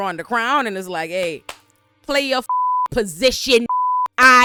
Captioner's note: beep